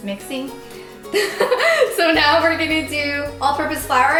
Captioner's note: laughing